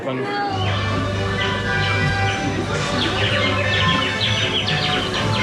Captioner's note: birds chirping